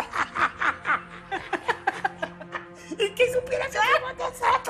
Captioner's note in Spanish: Carcajadas